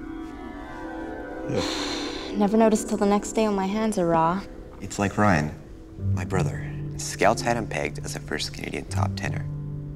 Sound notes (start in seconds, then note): 0.0 pensive music; 1.5 Megan sighs